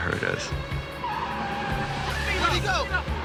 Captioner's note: yelling; tires screeching